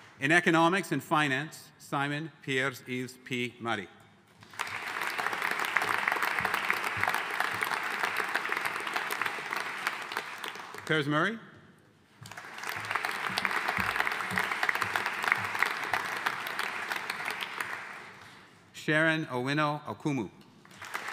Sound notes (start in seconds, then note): 4.4 audience applauding; 12.2 audience applauding